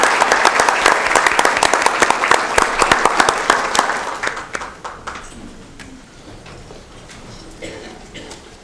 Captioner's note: applause